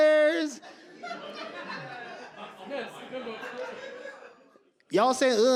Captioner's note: audience laugh